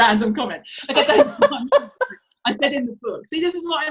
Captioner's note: laughs